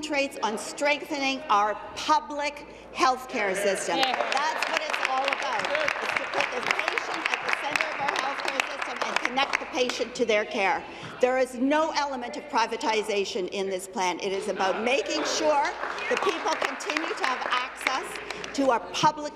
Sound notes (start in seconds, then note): 6.6 applause